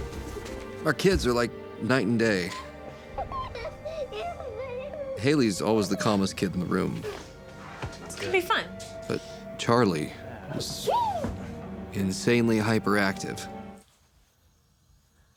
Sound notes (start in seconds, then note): 3.3 laughter